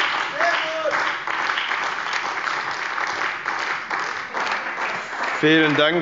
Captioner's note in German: Beifall bei der CDU, dem BÜNDNIS 90/DIE GRÜNEN und der FDP